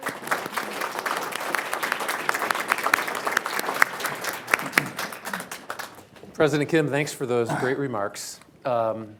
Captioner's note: applause